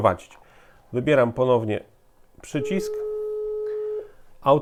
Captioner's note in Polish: sygnał ciągły